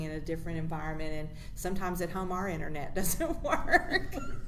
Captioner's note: laughs